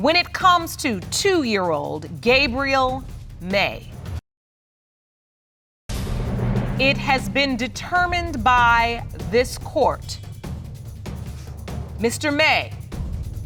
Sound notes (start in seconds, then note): none